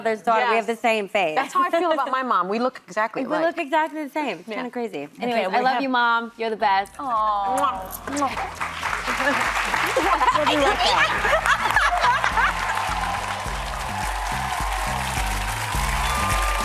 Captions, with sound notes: - You and my mother's daughter, we have the same face. - That's hard to feel about my mom. We look exactly like. - We look exactly the same. - Kind of crazy. - Anyway, I love you mom. - You're the best. - Aww. - Aww. (audience applauding) (laughing) (upbeat music)